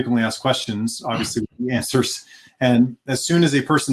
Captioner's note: laughing